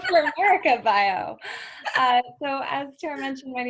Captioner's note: laughter